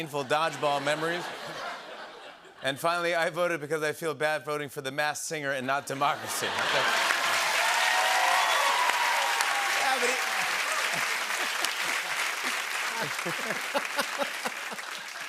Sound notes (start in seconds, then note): 0.2 laughter; 6.3 laughter, cheering, and applause; 12.8 both laugh